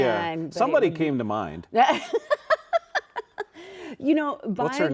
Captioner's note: laughing